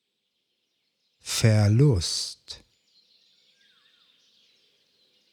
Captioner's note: german